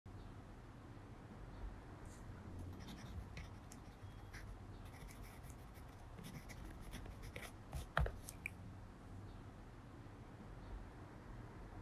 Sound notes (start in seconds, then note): 4.9 pen scribbling